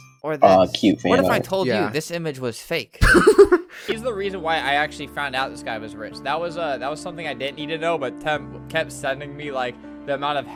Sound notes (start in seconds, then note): 3.0 laughs